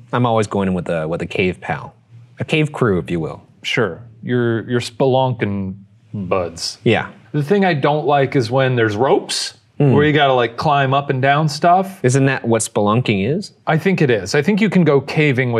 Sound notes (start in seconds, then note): none